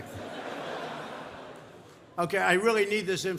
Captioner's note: laughter